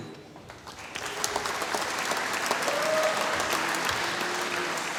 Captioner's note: applause